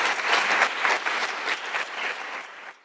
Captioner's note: applause